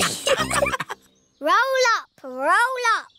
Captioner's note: all laughing